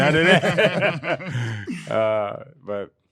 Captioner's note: laughing